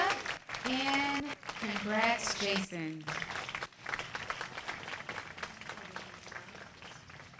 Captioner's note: applause